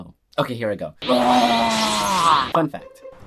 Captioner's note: yells